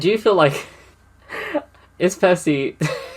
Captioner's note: laughs